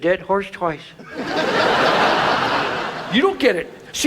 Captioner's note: audience laughs